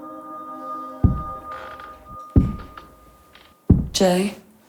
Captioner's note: thudding; floorboards creak